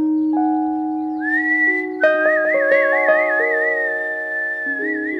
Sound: whistling

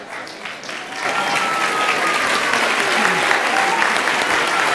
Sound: students applauding

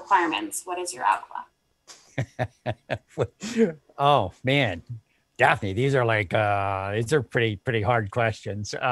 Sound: laughter

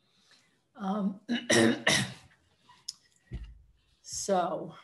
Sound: clears throat

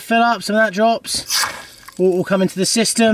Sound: water splashing

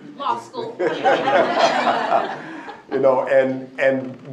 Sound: laughter

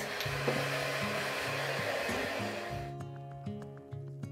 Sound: hair dryer whirring; gentle upbeat music

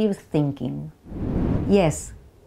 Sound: slide whooshes

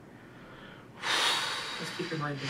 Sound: sighs

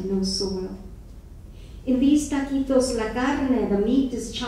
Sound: speaking foreign language

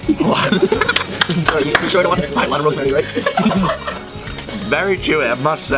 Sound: cameraman laughing

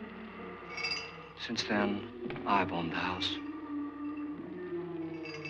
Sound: ghastly moaning

